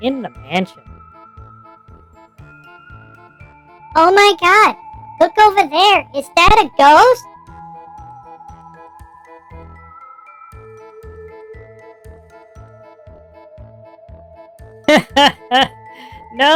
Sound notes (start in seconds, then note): 5.2 excitedly